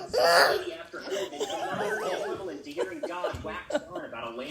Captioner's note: laughing; TV announcer chattering